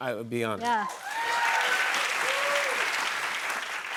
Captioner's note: cheers and applause